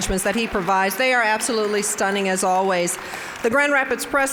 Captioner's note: applause